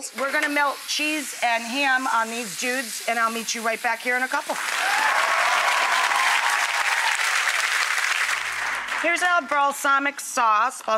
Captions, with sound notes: We're gonna melt cheese and ham on these dudes and I'll meet you right back here in a couple. (audience applauding) Here's our balsamic sauce,